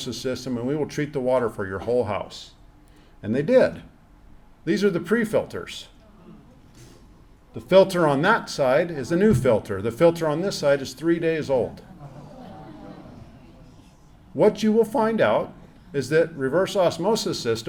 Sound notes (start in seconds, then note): 10.0 audience gasps